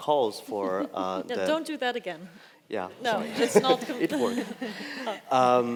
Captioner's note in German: lacht